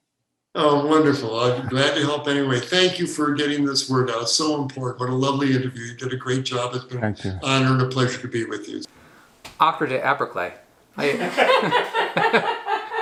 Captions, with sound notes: - Oh, wonderful, glad to help anyway. Thank you for getting this word out, so important. What a lovely interview. You did a great job. - Thank you. - It's been an honor and pleasure to be with you. - After today upper clip (laughing).